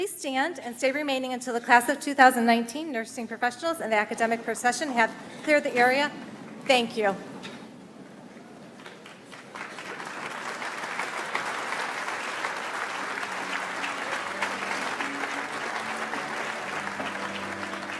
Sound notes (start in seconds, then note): 9.6 audience applauds; 15.4 calm music